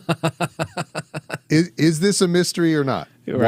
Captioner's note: laughing